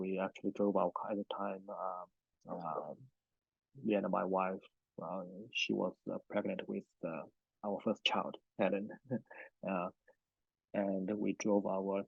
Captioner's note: laughs